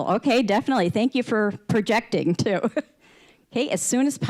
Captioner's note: chuckling